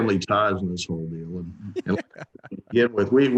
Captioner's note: laughing